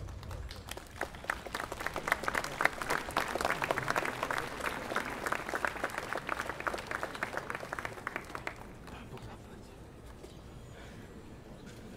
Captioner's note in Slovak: Potlesk